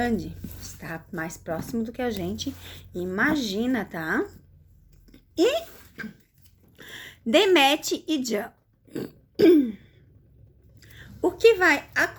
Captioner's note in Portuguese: limpando a garganta